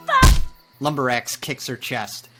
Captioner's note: thudding